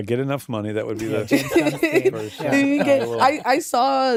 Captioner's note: all chuckling